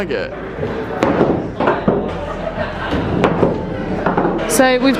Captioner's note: ball rolling